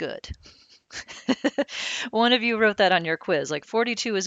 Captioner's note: laughing